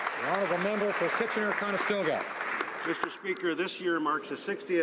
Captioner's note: applause